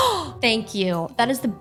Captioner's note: gasp